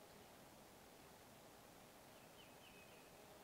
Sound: birds chirping

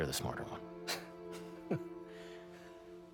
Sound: laugh

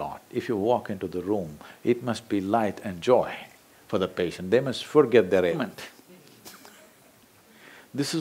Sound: laughs

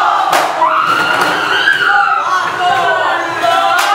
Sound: hysterical scream

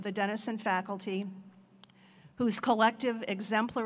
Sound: none

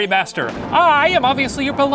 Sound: thunderclaps

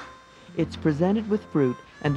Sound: voiceover

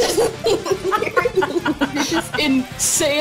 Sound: everyone laughs

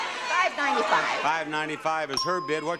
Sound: bell dings

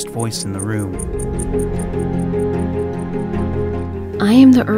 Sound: ticking clock

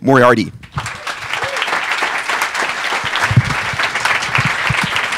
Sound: crowd applauds

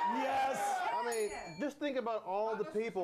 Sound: bell rings

